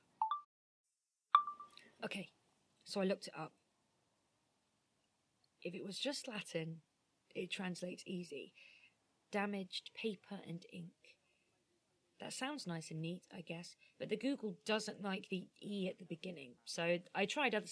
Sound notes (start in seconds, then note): 1.3 chime of a phone recorder turning on; 1.4 chime of a phone recorder turning off